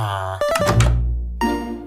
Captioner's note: Villager grunts